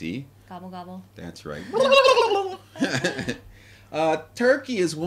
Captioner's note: turkey-like sounds